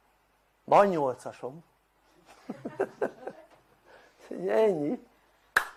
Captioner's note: laughter